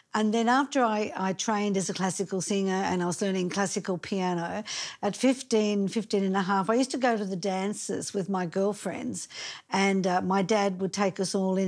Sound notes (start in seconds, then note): none